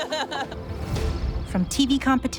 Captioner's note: laughs